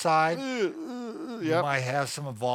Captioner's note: groaning